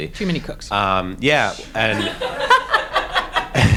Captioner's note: audience laughs